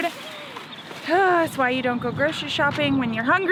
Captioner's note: sighs